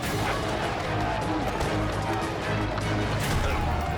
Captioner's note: bikers chanting